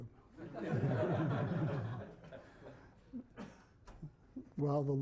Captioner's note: laughter